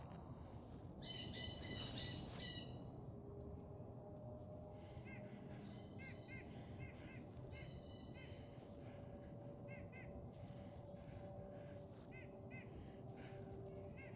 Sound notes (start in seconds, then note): 0.2 bird squawks; 4.6 breathing